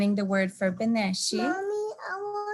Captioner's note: speaking in native language